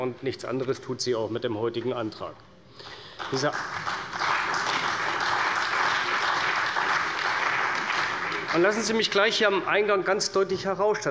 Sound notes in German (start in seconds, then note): 2.9 Beifall bei der CDU und dem BÜNDNIS 90/DIE GRÜNEN